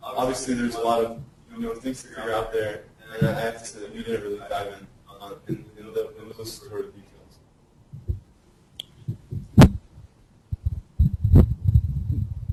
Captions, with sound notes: Obviously there's a lot of things that are out there. (distorted speech)